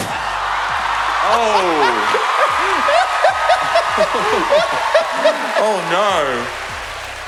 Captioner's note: Sister Daniel laughing